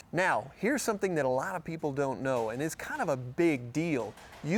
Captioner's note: none